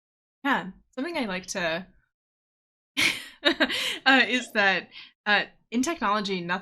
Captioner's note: laughing